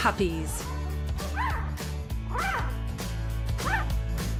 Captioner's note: puppies cooing